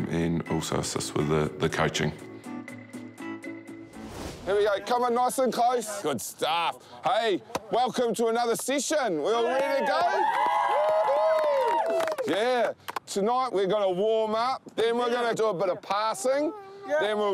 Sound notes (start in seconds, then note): 9.4 all cheer